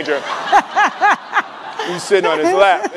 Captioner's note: laughing